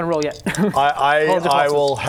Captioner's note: defiant rattle